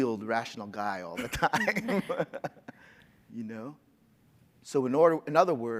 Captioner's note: laughs